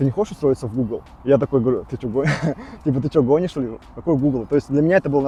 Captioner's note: laughs